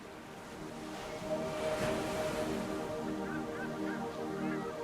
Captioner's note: seagulls mewing